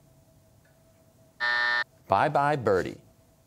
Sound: buzzer

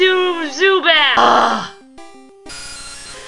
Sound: annoyed growl

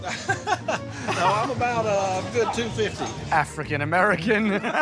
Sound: laughs

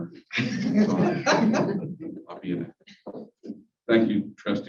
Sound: laughter

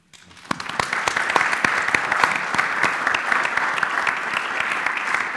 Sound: applause

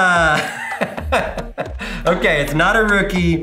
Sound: laughing

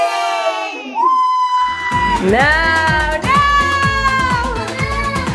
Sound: family member shouts

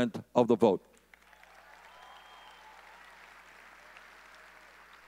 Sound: audience cheering

